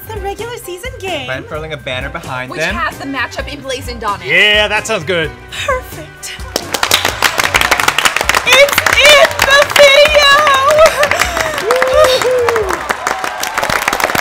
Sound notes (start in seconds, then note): 6.4 group applauding